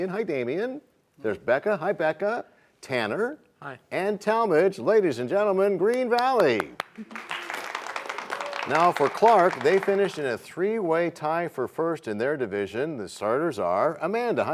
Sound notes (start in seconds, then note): 6.2 applause